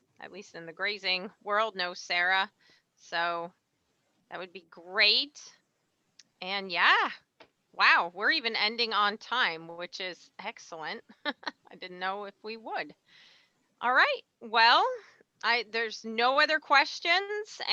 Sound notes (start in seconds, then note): 11.1 laughs